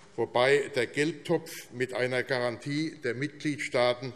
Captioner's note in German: none